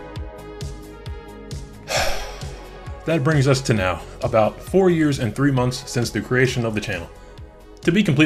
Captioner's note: sigh